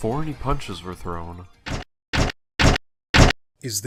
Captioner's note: Reploid footsteps